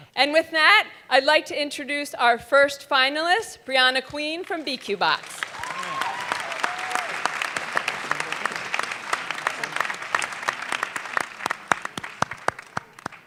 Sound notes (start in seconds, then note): 4.4 audience clapping and cheering